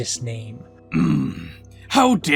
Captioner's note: Eggman angrily moans